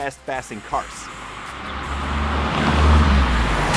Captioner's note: fast cars passing